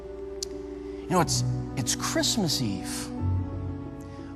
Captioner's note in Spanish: chasquea